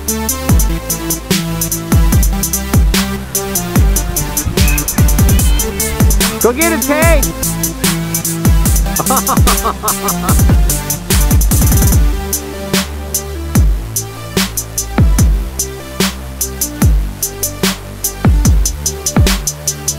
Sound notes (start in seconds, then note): 8.8 laughing; 11.6 upbeat music